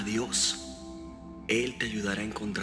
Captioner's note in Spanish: Voz de Pete